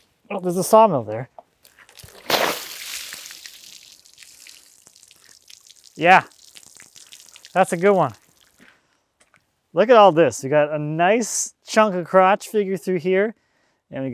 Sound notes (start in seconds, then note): 1.7 water splashing